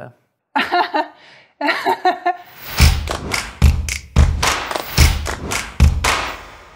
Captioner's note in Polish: śmiech